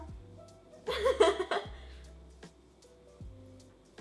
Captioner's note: laughs